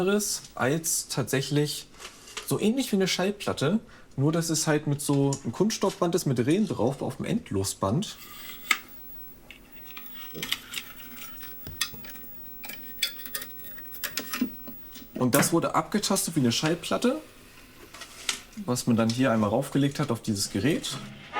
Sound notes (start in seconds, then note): 9.6 creaking